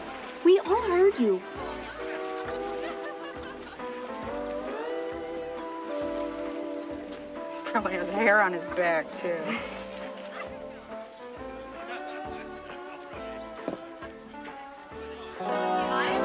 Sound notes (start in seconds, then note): 7.9 Sheila laughs; 12.1 guests chattering